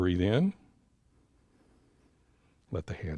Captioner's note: inhales